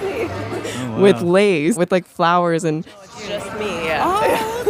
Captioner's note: laughs